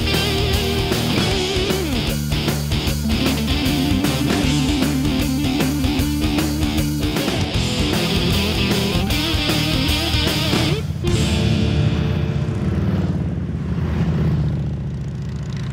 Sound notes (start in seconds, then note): 3.3 upbeat music continues; 11.6 motorcycles roaring